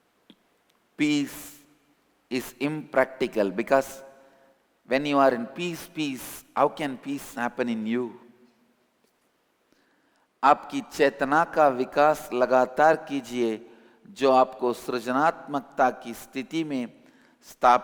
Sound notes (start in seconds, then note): 5.3 hindi